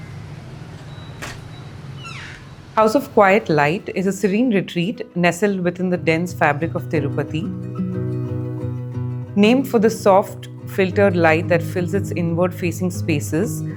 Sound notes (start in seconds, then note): 1.1 window door clicks open